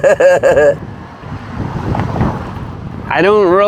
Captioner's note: laughs; Traffic